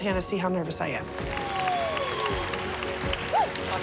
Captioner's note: applause